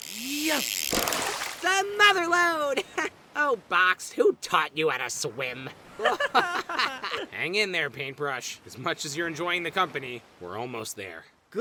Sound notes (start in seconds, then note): 6.0 test tube and yin-yang laugh